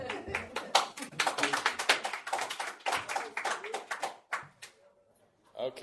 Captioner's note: laughter; applause